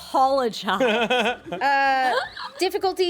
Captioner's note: everyone laughs